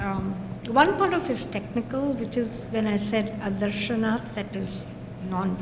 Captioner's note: non-english speech